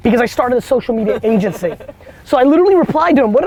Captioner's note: group laughter